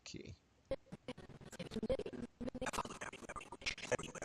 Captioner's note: audio skipping